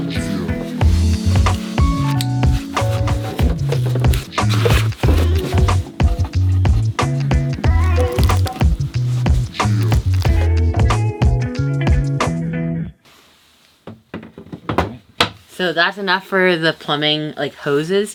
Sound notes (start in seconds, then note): 5.0 hip hop music continues; 6.9 rustling